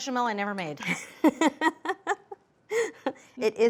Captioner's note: laughs